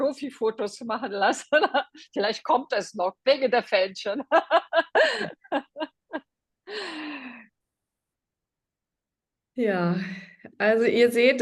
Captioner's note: laughter